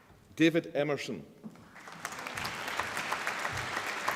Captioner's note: applause